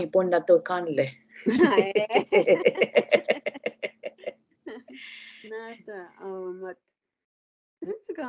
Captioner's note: laughing